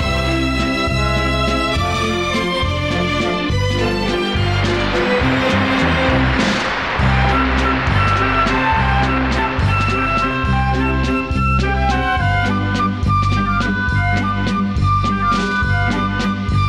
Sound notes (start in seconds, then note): 3.6 audience applauding; 10.5 slow waltz music